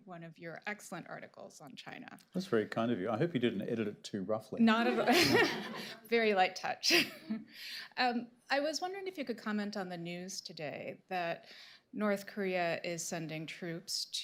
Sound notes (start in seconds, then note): 4.8 laughter; 4.9 laughs